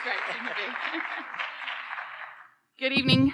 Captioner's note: audience applauding